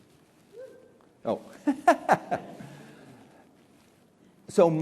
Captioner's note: laughs